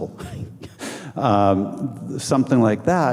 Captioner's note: scoffing